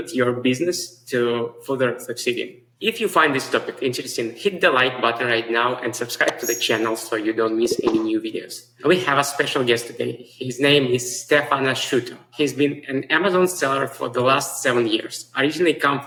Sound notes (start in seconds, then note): 6.3 bell dings; 7.6 mouse clicks